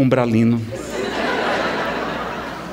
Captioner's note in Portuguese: Risadas